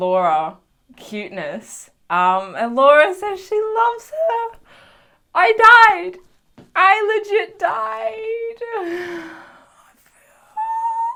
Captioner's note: Gay sigh